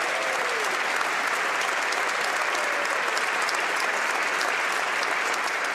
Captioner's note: applause